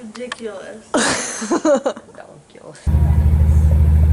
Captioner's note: laughter